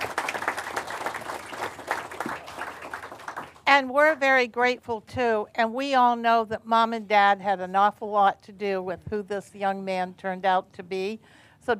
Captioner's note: applause